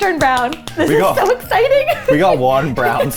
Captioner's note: laughing